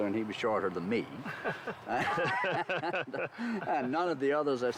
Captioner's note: laughs